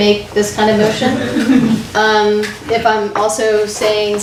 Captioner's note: audience laughs